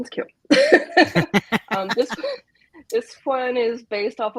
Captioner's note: laughs